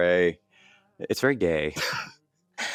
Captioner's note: laughs